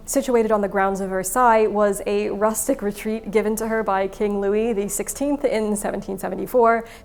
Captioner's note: none